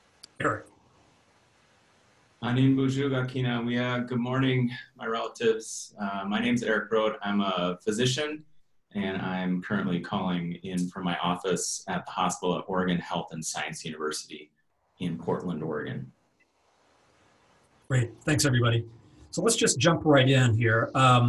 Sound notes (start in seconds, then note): 2.3 speaking in Ojibwe